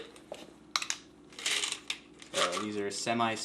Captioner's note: cap rattles